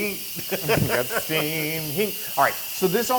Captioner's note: laugh